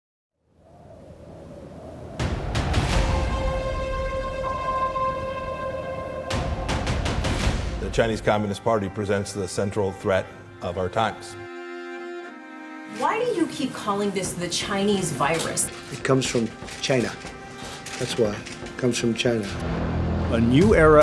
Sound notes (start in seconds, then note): 1.4 wind whistling; 2.8 dramatic music; 11.8 light dramatic music